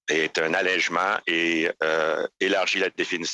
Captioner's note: speaking French